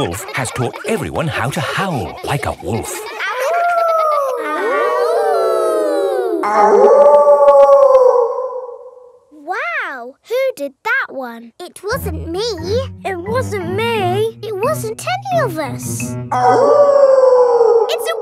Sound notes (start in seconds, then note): 3.3 howling; 5.0 kids howling; 7.0 wolf howling loudly; 16.3 wolf howling loudly